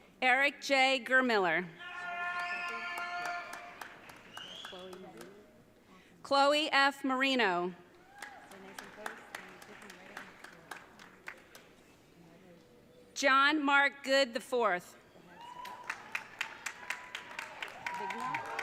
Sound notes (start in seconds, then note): 1.8 audience cheering; 15.4 audience cheering